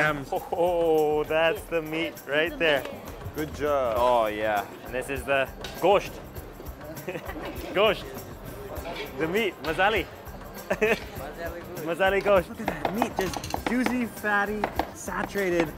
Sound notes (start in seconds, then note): 6.8 laughing; 10.6 laughing